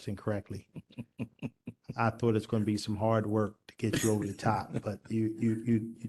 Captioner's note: laughter